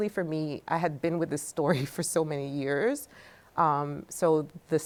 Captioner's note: chuckles